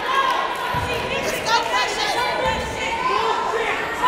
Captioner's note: yelling